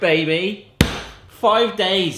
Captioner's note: slaps